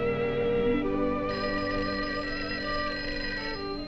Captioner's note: telephone ringing